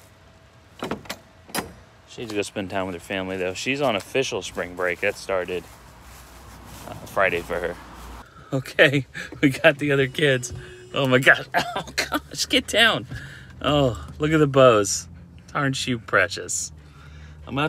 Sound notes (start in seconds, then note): 1.4 gate clanks; 8.8 chuckles; 11.4 laughing